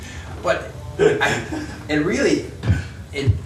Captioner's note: laughs